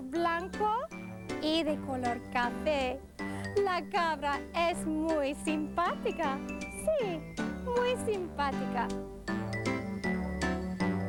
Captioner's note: foreign Language